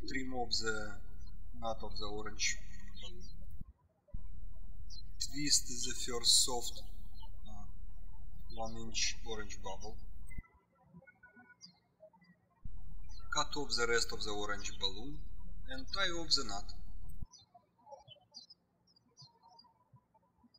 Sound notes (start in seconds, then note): 10.8 birds chirping; 18.1 birds chirping